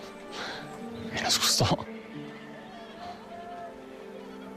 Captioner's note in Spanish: Susurra